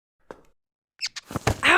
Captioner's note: squeak